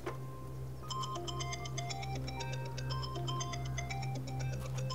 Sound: phone rings

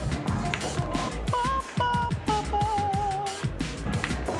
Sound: <i> humming</i>

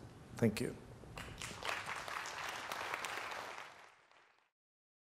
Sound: applause

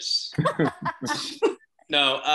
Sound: laughs

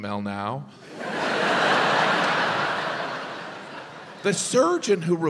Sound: audience laughs

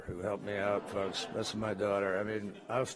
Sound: laughter

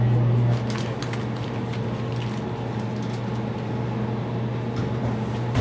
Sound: indistinct background crinkling

